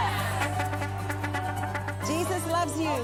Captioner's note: truck honks